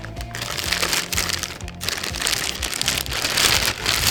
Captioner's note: plastic rustling